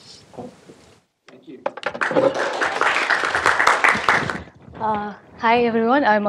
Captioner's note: applause